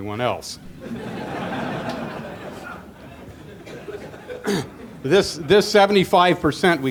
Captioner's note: laughter